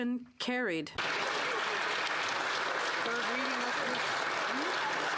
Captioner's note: applause